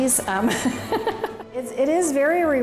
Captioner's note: laughter